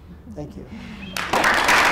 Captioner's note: clapping